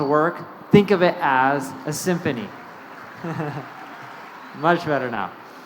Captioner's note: chuckles